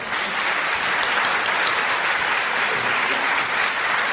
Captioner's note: crowd clapping